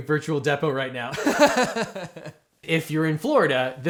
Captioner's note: host laughs